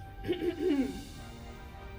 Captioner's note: throat clearing